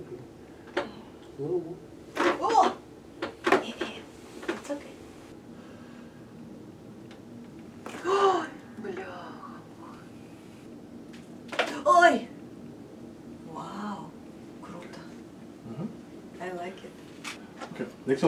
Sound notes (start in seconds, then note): 11.5 neck cracking